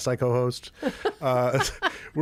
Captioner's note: laughter